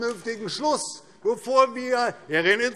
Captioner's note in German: Zuruf